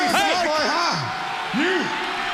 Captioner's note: crowd cheering